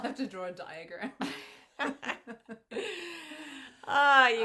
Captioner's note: both women laughing